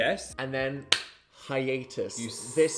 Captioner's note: hands clapping